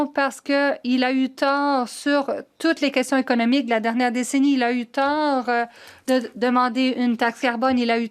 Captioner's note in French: voix de l'interprète